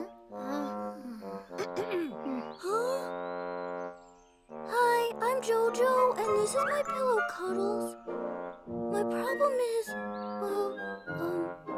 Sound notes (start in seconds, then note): 1.5 clears throat